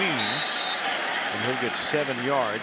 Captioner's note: whistle